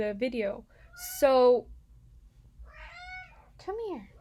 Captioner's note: cat continues meowing